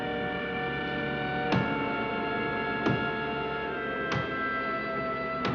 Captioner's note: hammering